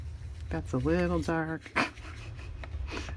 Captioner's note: laughs